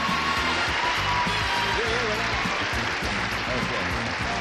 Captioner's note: applause